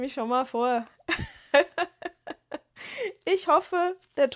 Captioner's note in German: gelächter